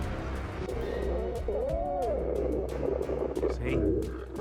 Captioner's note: creature roaring